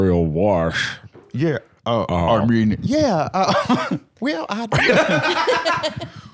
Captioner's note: deep voice; higher-pitched; laugh